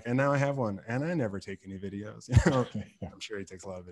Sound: laughs

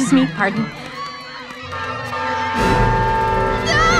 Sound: train Horn Honking; yells

